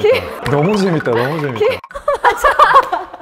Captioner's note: stomping of excitement